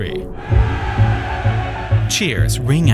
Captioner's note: people cheering